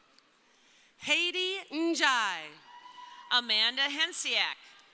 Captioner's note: crowd cheering